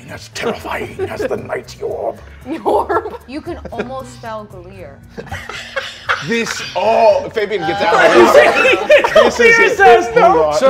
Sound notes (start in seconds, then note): 7.8 laughing